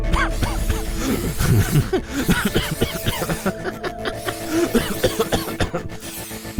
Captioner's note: spraying; coughing, laughing